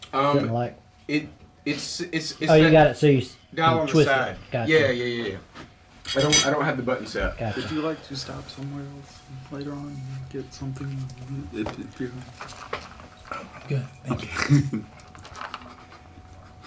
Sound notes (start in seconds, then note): 1.4 stammering